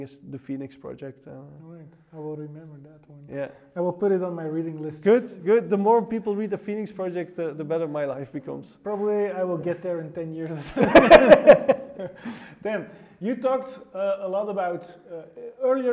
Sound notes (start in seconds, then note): 10.5 both laugh